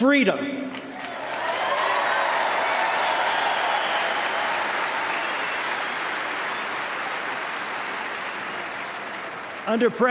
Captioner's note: applause